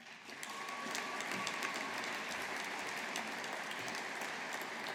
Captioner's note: audience applauding